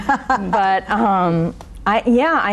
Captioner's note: laughing